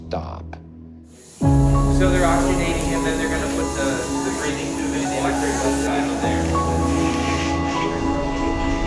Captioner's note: people chattering